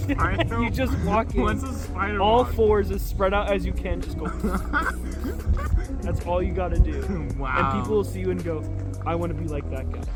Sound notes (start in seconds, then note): 4.7 spider noises